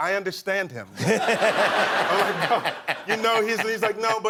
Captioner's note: laughter